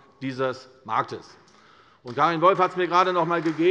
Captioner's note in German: Beifall bei der CDU